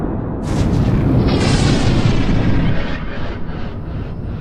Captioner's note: blast cracking